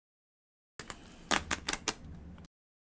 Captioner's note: clicking